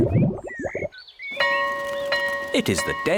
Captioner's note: tummy rumbles; school bell rings